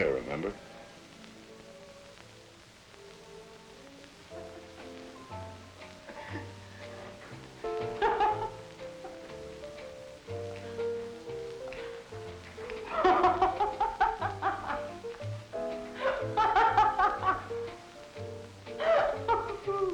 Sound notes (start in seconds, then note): 3.3 music from radio; 7.9 laughter